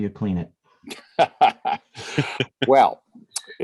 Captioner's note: laughter